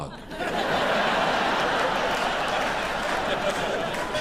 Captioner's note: audience laughing